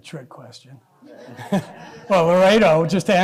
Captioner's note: laughter